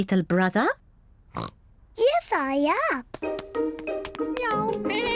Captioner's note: snorts; bleats; meows